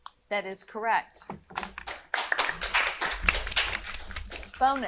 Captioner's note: audience applauding